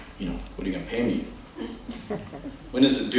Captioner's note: laughter